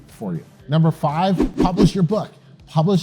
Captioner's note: text whooshing